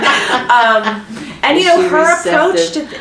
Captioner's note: laughter